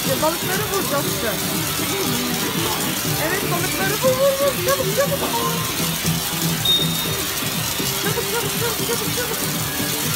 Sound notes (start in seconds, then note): 1.9 sound of water; 5.6 water sound; 9.9 water sound